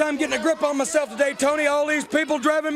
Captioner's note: crowd chatter